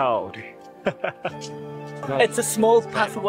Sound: laugh

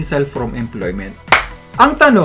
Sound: clap!

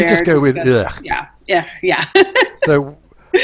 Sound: laughs

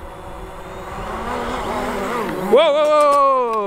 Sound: drone whirs

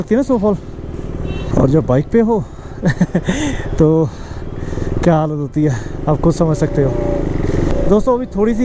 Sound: laughing

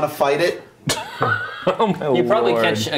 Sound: laughing

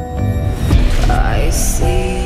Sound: gunshot

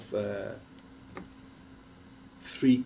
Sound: pause

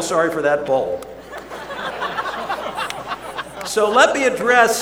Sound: laughter

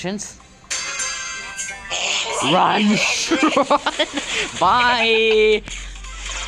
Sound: laughter

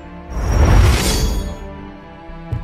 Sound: some kind of Enchantment sound

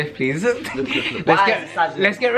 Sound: laughs

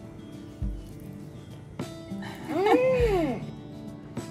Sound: laugher

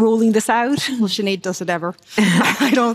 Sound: laughter

